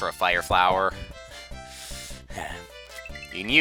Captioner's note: breathing